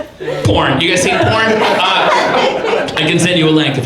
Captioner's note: audience laughs